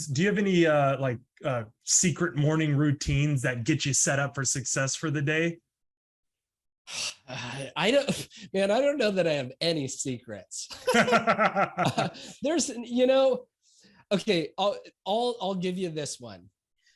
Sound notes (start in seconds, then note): 10.7 laughs